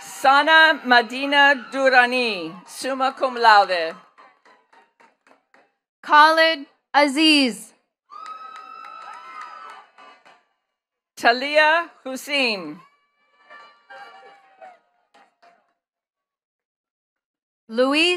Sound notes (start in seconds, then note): 0.0 attendees cheering and clapping; 4.5 attendees clapping; 8.1 attendees cheering and clapping; 13.2 attendees clapping